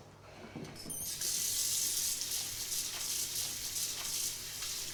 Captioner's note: turning on faucet